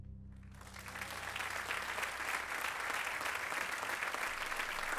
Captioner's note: applause